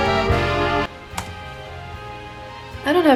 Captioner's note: taps key on keyboard